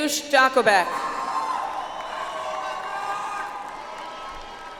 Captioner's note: audience applauds